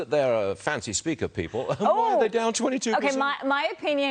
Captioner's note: laughter